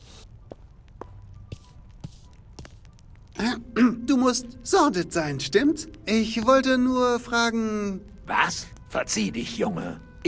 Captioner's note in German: räuspern